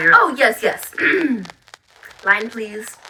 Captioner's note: clears throat